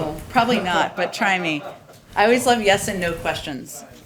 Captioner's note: laughter